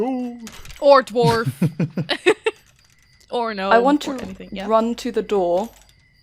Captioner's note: laughs